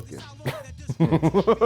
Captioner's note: laugh